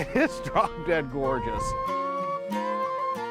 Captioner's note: laughs